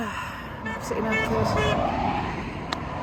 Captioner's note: road noise and car beeps its horn